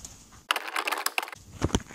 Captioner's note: typing sounds